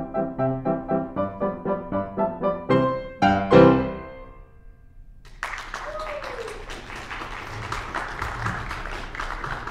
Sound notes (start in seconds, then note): 5.2 audience applauding